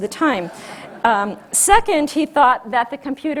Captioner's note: audience laughs